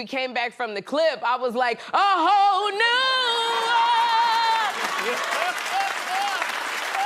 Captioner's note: laughter